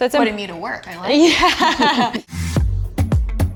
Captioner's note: women laughing; upbeat music